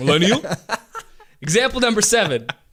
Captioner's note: laughter